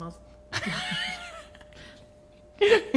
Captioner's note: laughing